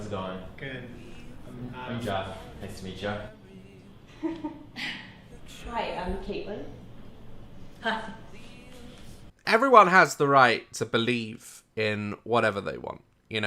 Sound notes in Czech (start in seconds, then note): 4.1 nervózní smích; 7.8 nevózně